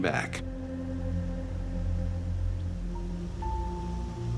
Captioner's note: water flowing